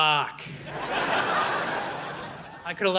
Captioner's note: audience laughing